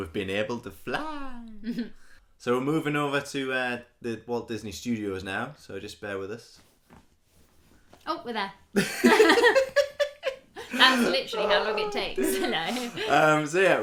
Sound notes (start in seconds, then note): 8.7 laughter